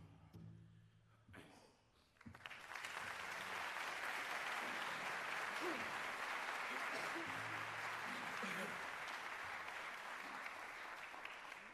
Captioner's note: applause